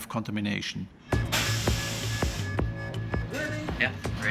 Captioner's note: alarm ringing